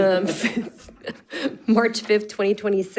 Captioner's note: board laughs